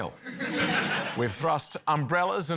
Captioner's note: laughter